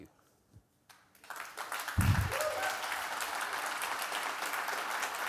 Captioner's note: audience clapping